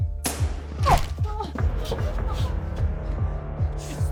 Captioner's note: grunting